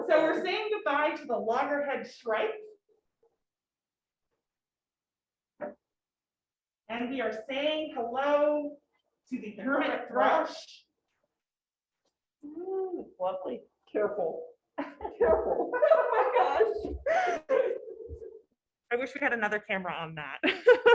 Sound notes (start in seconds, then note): 14.8 both laughing; 14.8 laughing